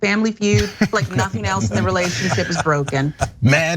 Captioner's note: laugh